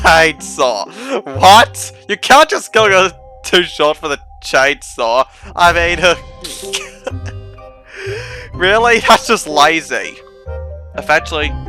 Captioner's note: more chuckling